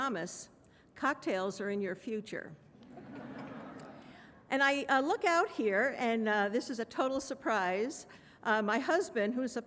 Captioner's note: laughter